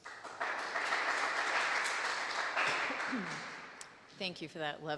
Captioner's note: audience clapping